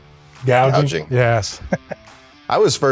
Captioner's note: laughs